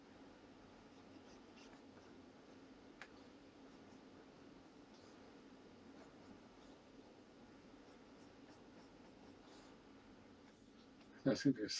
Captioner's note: silence